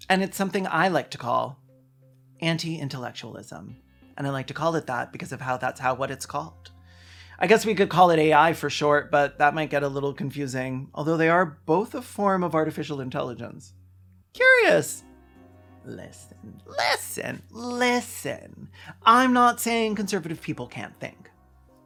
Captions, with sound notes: And it’s something I like to call “anti-intellectualism” And I like to call it that, because of how thats how whats it’s called... [breathes to stay alive] I guess we could call it AI for short, but that might get a little confusing, although they are both a form of artificial intelligence. Curious. Listen! Listen! Listen!, I'm not saying conservative people can't think.